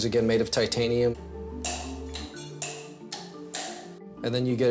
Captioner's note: metal clicking